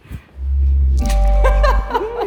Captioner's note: chiming; participants laughing